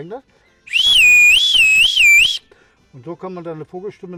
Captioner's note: whistle sound